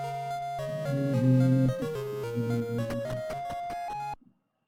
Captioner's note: humming along